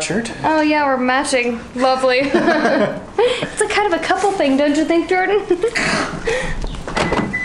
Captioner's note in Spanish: Risas